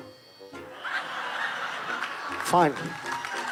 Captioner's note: audience laughing